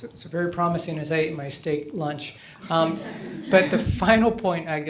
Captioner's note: laughter